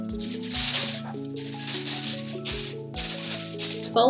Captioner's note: tin foil rustles